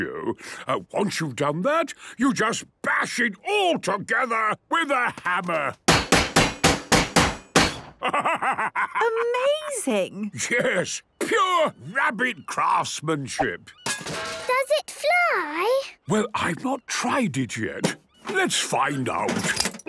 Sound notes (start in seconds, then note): 5.9 metallic bashing; 13.9 distant clanging